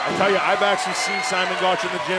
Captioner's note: cheers & applause